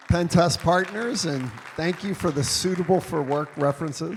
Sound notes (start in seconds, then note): 3.2 audience applauding